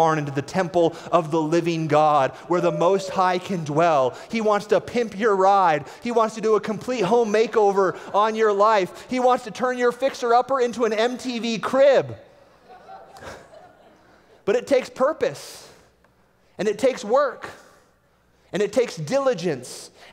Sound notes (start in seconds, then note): 12.6 laughter